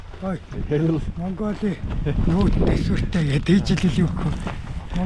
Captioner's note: man speaks in foreign language